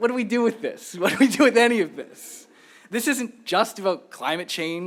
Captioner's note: laughter